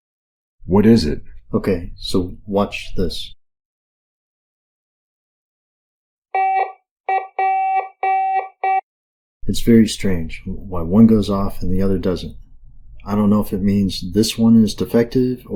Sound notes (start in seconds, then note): 0.0 silence; 7.0 beeping